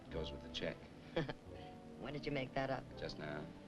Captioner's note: chuckles